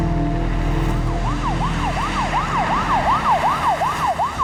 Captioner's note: siren wailing